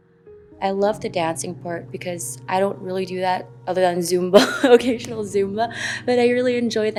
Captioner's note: laughs